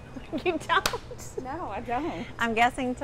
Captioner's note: laughs